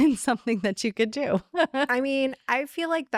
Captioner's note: laughing